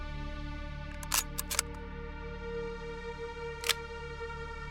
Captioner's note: gun clicks